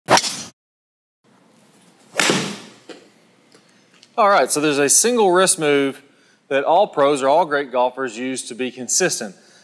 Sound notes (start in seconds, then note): 2.1 club smacks golf ball